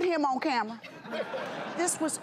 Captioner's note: laughter